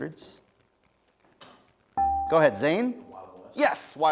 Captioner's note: dinging